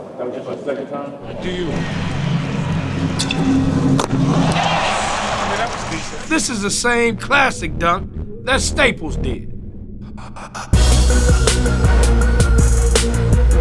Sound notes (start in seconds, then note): 1.6 dramatic music; 4.5 fans cheering; 10.8 upbeat music